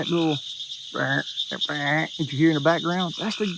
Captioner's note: Sheldon imitating frog